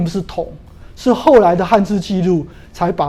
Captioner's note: chinese words